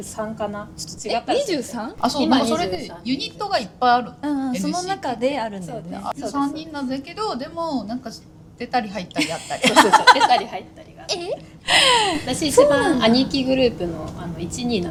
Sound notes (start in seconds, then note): 9.2 laughs